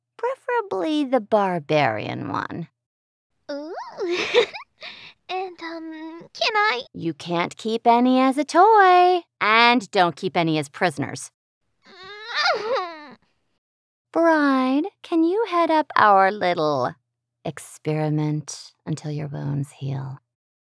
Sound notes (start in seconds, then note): 11.8 Star whines in an upset groan